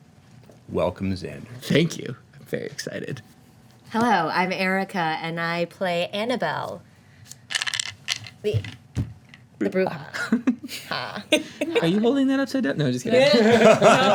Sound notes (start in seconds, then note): 7.3 dice rolling; 10.2 laughter; 13.2 laughter